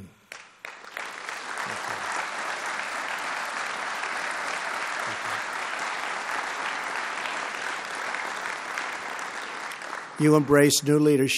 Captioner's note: applause